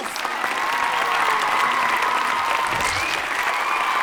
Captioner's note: students cheering